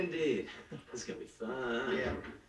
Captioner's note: door opens, closes